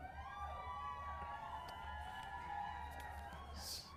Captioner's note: crowd cheering